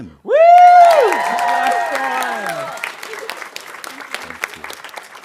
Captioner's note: audience cheering and applauding